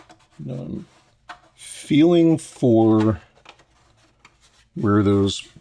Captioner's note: scraping